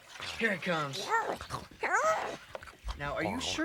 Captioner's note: Tasha babbles